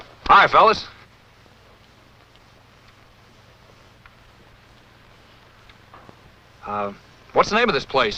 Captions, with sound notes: - Hi, fellas. [silence] Um. What's the name of this place,